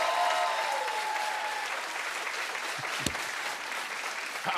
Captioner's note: cheers and applause